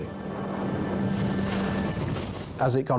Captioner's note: gentle music; waves roaring